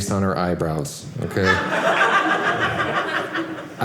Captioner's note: audience laughing